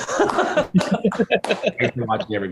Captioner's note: laughter